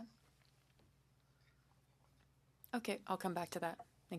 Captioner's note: speaking French